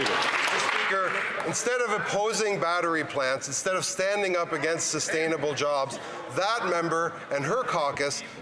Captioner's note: some Applause